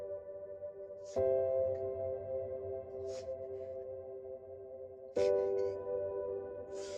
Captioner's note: Wanda sobbing